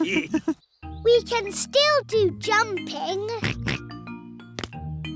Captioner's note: all laughing; oinks